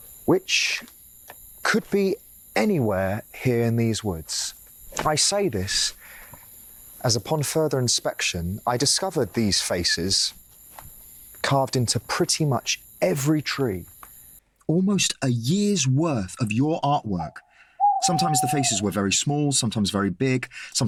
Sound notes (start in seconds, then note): none